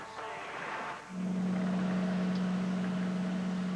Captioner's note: enge rumbling